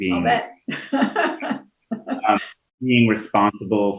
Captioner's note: laughing